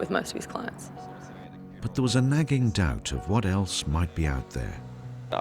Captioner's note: voiceover